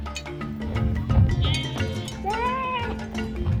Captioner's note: animal sound